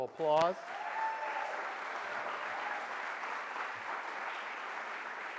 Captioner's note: audience applauds